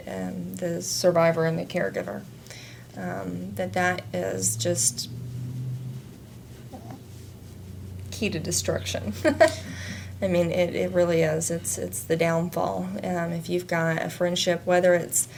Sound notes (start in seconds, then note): 9.2 laughs